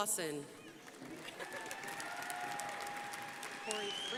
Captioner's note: crowd applauding